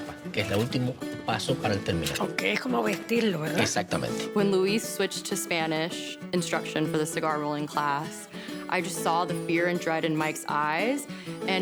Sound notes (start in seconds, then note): 2.5 speaks Spanish